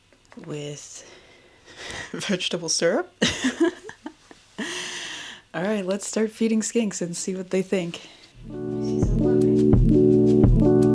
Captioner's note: laughs